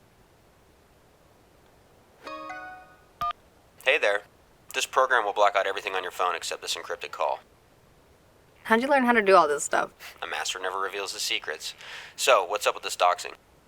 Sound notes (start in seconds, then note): 2.1 phone chimes, line clicks